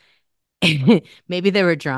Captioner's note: laughs